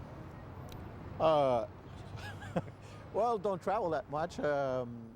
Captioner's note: laughs